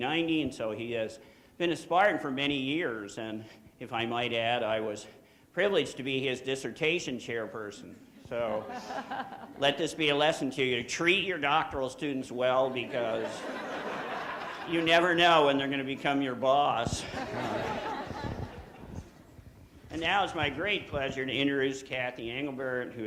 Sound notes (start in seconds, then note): 12.6 audience laughing; 16.9 audience laughing